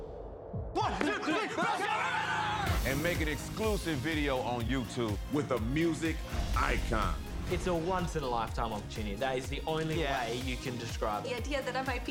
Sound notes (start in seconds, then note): none